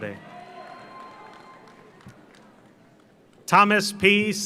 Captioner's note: audience cheers; audience applauds